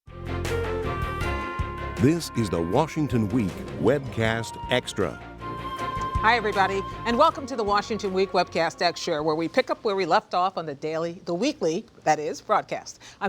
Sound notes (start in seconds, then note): 0.3 dramatic music; 2.2 voiceover